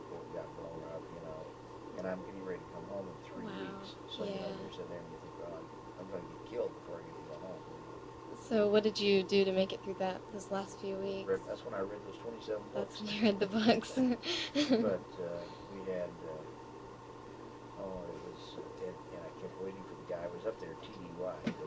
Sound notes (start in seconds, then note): 13.0 laughs